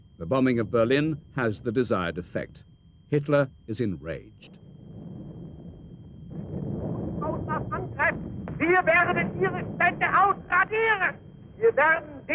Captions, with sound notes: The bombing of Berlin has the desired effect. Hitler is enraged. (Hitler speaking in German)